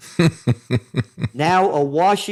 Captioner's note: laughing